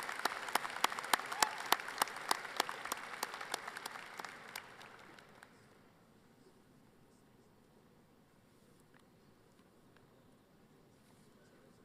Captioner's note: applause